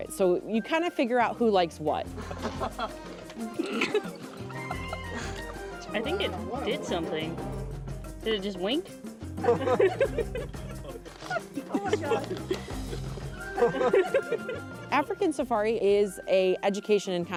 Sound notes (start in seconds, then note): 3.4 light laughter; 9.4 laughter